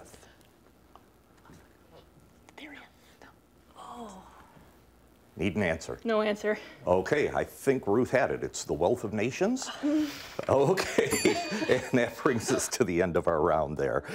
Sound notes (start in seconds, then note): 9.6 students groan; 11.0 ding